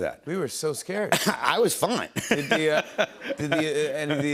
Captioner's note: laughs